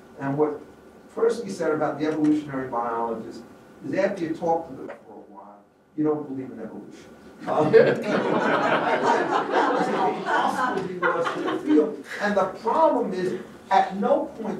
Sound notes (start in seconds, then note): 7.5 laughter